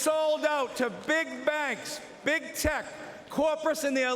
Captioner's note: applause